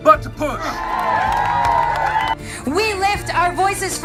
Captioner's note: crowd cheering